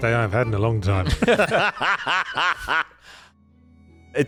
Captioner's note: laughter